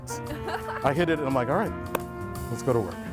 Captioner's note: laughing